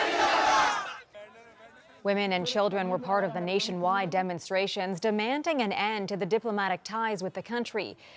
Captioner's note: screaming